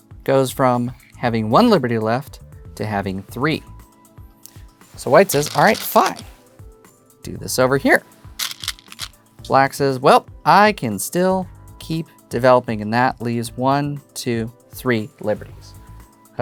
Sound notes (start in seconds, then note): 5.0 stones rattling; 8.4 stones rattling